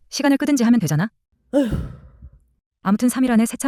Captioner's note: heavy sigh